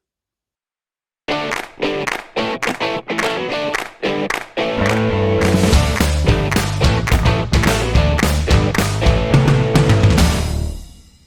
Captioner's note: claps